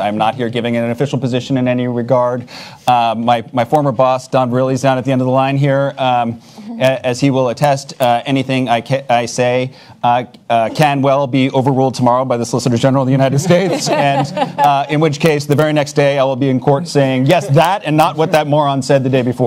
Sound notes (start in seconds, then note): 13.2 panelists laugh